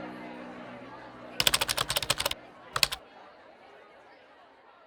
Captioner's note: keyboard typing